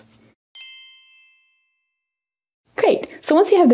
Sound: chiming

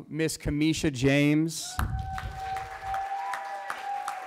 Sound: cheering

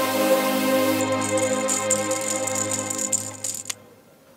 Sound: rattling

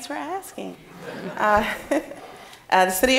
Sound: audience laughing

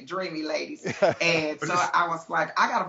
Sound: host laughs

